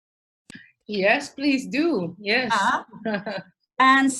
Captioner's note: laughs